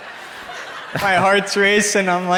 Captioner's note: crowd laughs